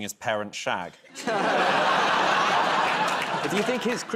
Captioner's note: laughter